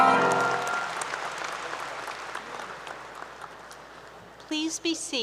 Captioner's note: applause